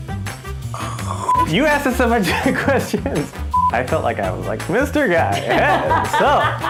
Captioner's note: laughter